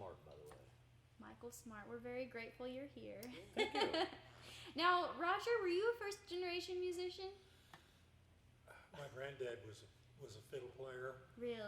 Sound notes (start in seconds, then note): 3.5 chuckling